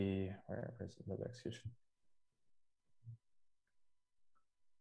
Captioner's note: voice muffling